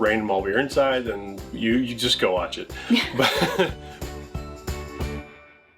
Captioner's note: laughing